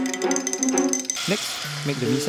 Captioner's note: voiceover